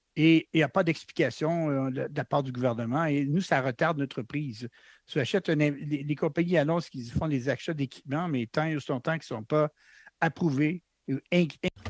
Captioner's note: speaking French